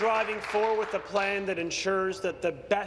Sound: applause

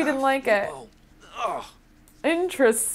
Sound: Sim groaning

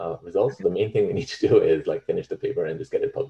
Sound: chuckles

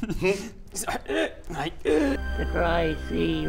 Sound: chokes; croaks

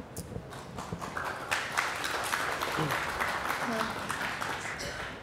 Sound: applause

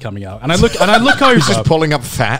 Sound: laughing

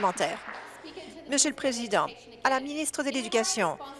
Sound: applause

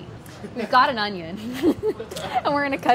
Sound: laughs

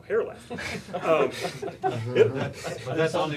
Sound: laughter

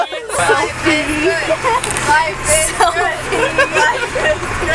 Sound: starts life is good chant

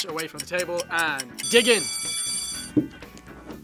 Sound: bell rings

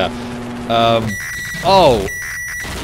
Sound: loud microwave screeches

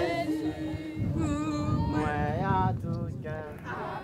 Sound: speaking foreign language

